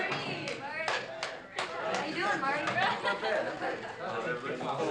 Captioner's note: crowd chattering